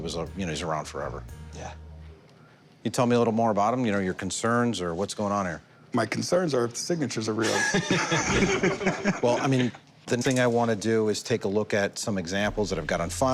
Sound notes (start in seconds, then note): 7.4 laughter